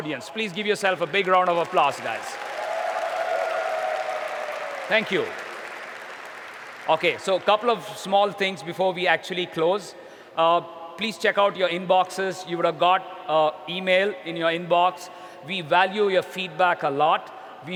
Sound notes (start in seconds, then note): 2.4 applause